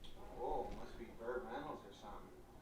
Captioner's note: tv playing